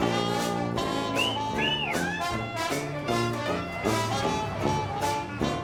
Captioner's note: wolf whistling